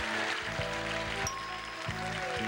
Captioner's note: bell dings